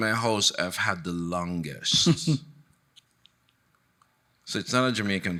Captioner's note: chuckling